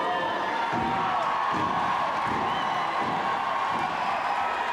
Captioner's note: audience booing; audience cheering